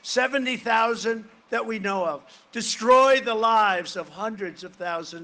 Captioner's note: none